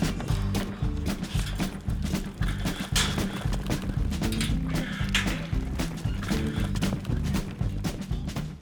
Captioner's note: hoof beats, gates clang over music